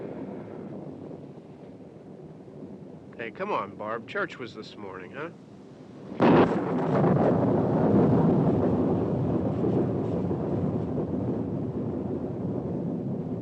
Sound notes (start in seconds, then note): 5.9 loud thunderclap